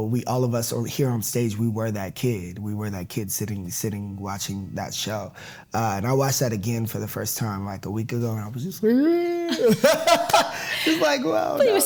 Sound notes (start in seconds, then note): 8.9 imitates crying